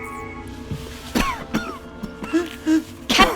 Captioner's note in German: keucht